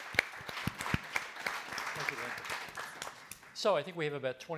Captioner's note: applauding